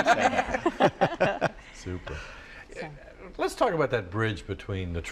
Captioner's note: laughter